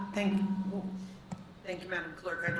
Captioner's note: microphone feedback